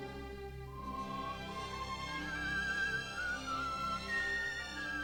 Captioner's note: whistling